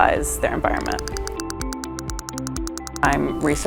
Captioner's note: clicking